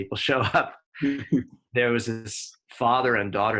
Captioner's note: both chuckle